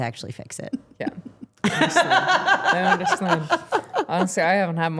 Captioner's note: Steph laughing